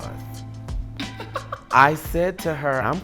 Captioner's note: laughing